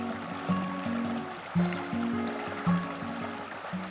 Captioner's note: water rushes